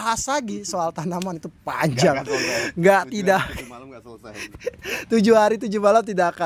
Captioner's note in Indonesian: tertawa